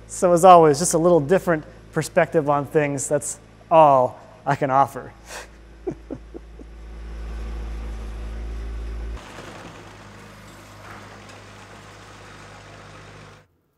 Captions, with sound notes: So as always, just a little different perspective on things, that's all I can offer. (chuckling) (skid steer engine whirring)